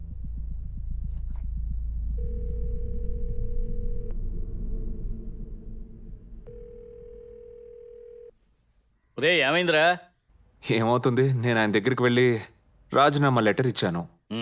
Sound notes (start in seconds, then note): 2.1 phone line internal ringing